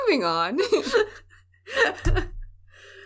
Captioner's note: laughter